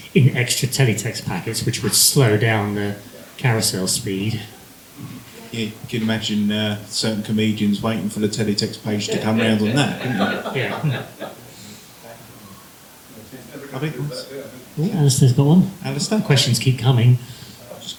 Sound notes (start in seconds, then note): 11.0 laughter